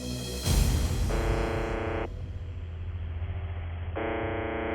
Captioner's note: buzzing